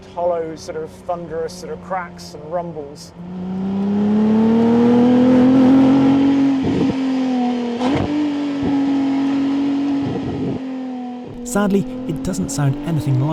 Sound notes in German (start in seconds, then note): 4.6 Motor brüllt